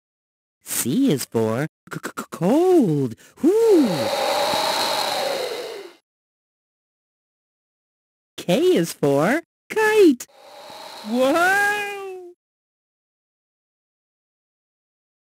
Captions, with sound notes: C Is For, (SHIVERS) Cold! Whoo! (WIND HOWLING) K Is For, Kite! (WIND HOWLING) WHOA!!!